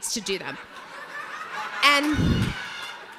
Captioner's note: audience laughs